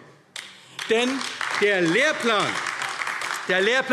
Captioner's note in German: Beifall AfD